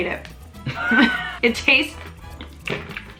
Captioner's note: laughs